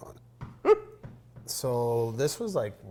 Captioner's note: giggles